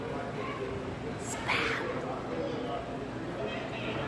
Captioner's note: whispers